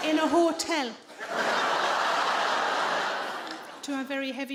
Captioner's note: audience laughs